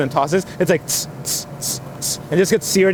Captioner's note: imitates food searing